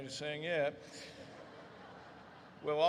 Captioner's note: audience laughs